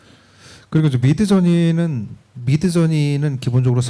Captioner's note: speaking korean